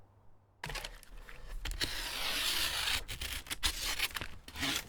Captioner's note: Stanley knife tears into cardboard